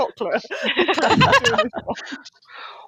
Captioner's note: laughter